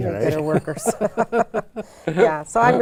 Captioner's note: laughing